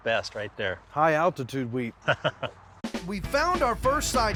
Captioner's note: laughing